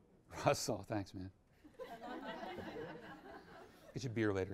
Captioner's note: audience chuckles